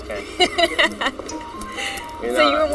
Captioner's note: laughs